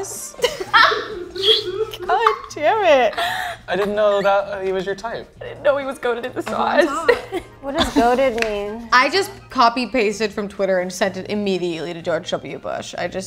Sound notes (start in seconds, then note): 0.4 cameraman laughs; 7.2 giggles